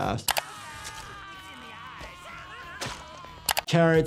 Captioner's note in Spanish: persona gritando